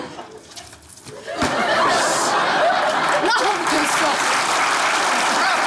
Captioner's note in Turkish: Kahkaha ve alkış sesleri